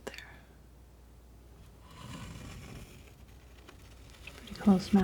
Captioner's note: scratching